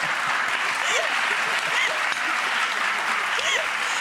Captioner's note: applause